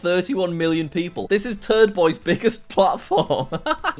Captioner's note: laughs